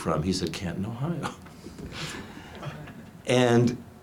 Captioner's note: laughs